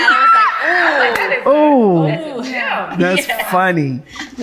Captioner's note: laughs